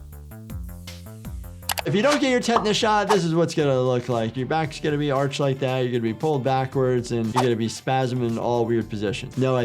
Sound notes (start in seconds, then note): 1.7 keyboard clacking; 2.9 swooshing music